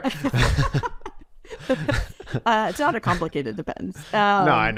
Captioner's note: laughs